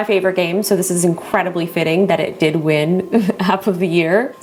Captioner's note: laughs